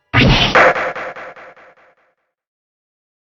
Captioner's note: gavel slams, echoes!